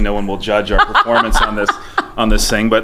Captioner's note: laughing